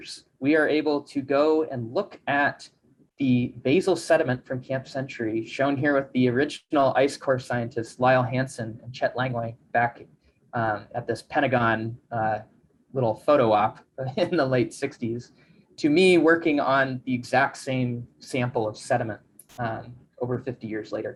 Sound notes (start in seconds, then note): 14.0 chuckles